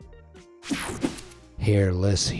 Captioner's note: screen whooshing